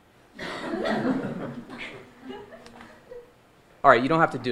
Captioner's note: audience laughing